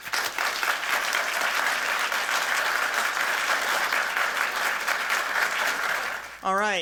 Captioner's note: applause